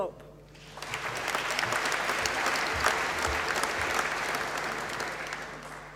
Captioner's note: applause